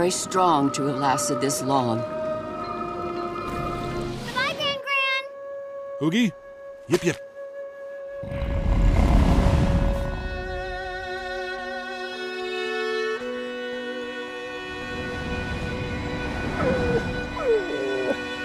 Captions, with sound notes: to have lasted this long. Bye, Gran Gran. Oogi, yip yip. [grunting] [whimpering]